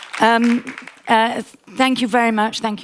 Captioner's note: audience applauding